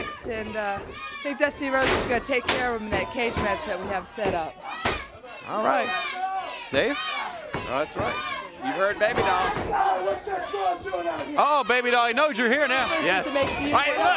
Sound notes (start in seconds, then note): 8.6 crowd cheering; 12.1 crowd chatter